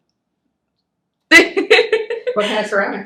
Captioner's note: laughs